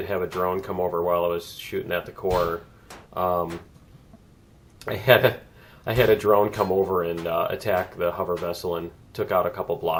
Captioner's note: laughs